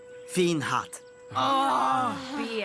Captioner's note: groaning